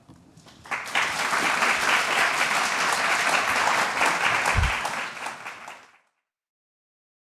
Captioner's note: applause